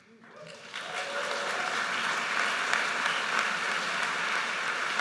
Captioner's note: audience cheers and applauds